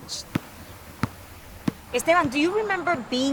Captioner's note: basketball bouncing